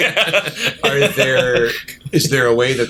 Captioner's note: laughter